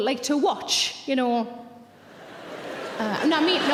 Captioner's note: audience laughing